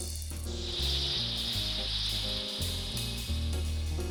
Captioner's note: insects flying